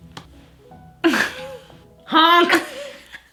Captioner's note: laughs